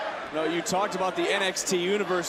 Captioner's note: crowd chants